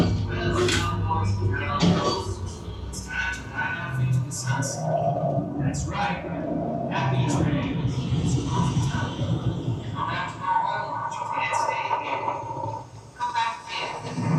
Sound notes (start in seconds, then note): 1.5 radio chatter